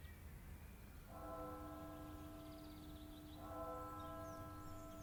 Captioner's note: bell ringing